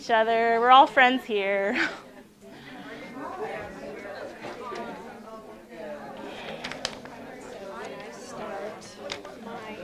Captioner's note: chatter in room